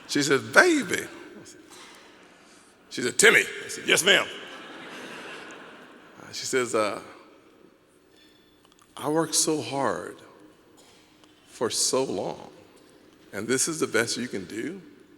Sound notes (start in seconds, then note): 3.9 audience laughing